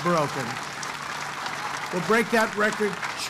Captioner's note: applause